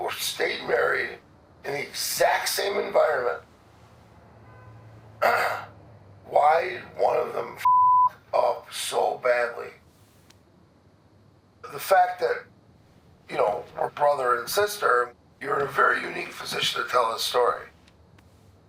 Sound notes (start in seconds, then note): 4.4 vehicle horn honks outdoors; 5.2 clears throat